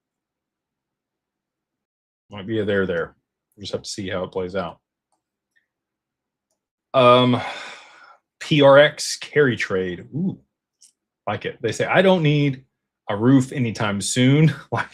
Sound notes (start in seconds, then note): 7.0 sighs